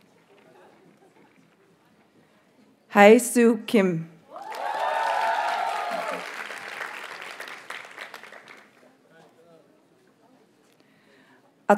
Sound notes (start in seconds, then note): 2.7 audience cheers and applauds